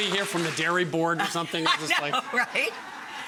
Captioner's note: laughs